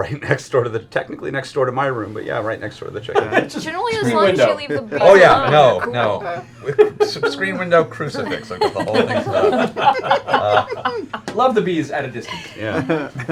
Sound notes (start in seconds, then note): 9.4 laughter